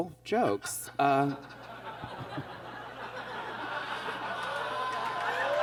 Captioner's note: audience laughs